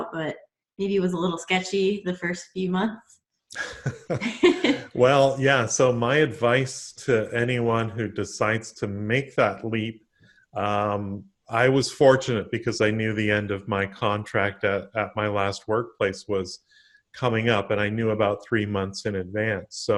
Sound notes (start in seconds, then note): 3.6 both laugh